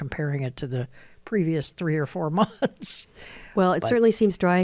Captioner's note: laughs